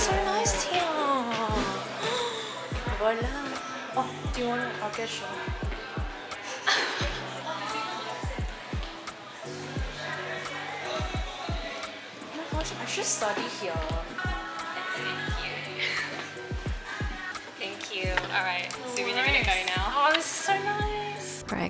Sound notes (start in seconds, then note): 1.5 gasps; 6.4 both chuckles; 15.5 giggles